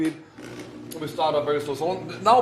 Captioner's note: blender whirrs